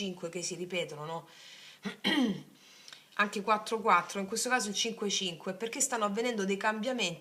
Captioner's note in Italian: schiarire la voce